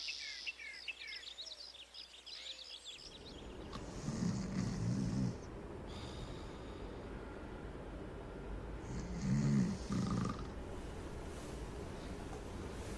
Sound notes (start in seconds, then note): 3.8 snoring